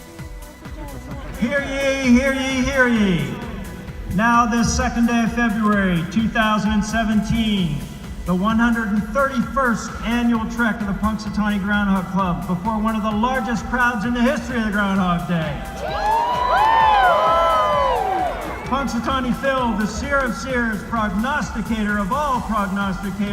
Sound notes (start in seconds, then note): 15.4 crowd cheers